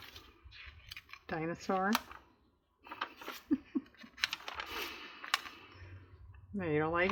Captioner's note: laughs